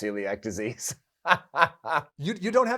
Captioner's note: laughs